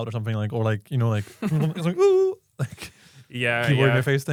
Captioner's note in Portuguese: risos